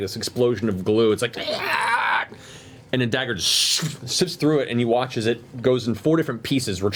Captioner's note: rasping noise